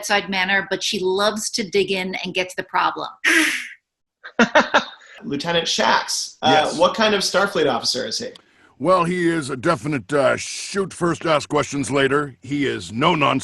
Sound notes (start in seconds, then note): 4.4 hisses